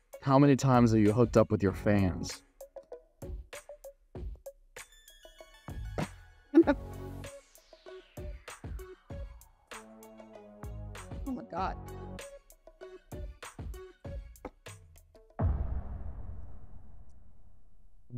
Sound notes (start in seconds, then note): 6.5 laughs